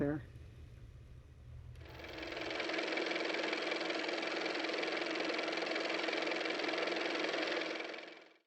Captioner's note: car motor